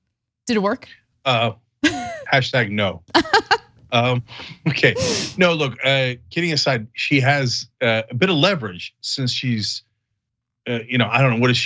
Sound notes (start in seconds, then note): 3.1 laugh